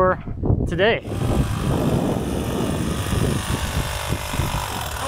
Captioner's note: saw cutting planks